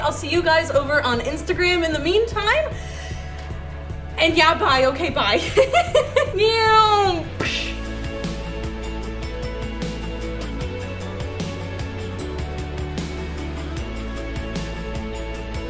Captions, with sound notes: I'll see you guys over on Instagram in the meantime, and yeah, bye, okay, bye! (laughs) Meow (puffs)! (bright upbeat music)